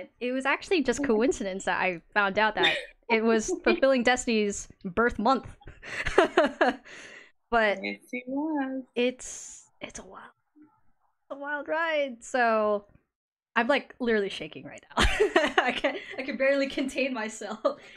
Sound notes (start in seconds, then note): 2.6 giggles; 7.8 laughs; 9.6 whispers; 15.0 laughs